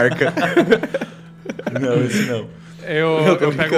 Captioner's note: laughs